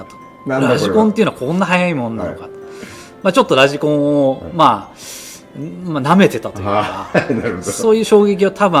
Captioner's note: laughs